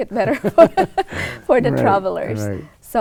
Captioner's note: laughs